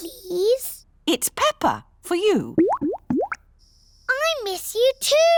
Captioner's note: bubbling